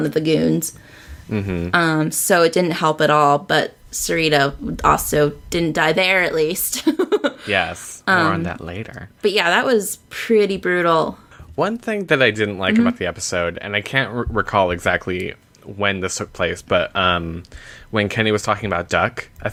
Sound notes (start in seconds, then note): 6.9 laughs